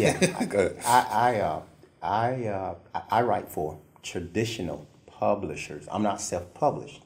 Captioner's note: laugh